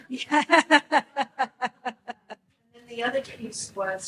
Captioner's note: laughs